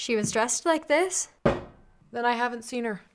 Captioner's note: clunk